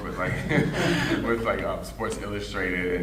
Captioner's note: audience laughing